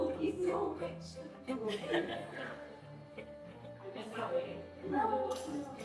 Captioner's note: crowd murmurs